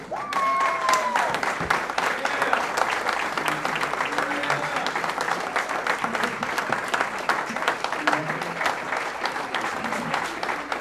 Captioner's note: applause